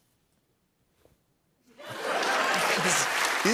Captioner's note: laughter and applause